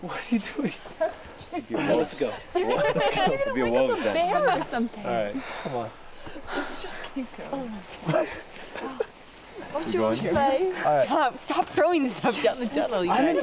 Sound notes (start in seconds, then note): 2.7 laughing; 8.6 all chattering